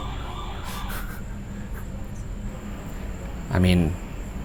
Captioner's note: laughing